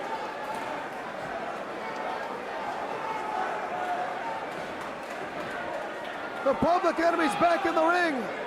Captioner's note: crowd chatter